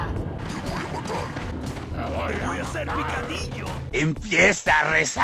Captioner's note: assorted Spanish noises